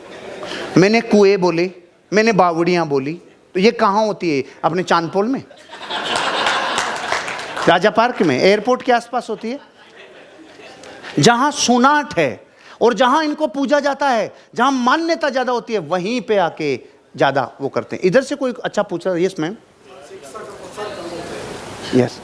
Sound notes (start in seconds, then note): 5.8 rounds of applause; 9.3 laughing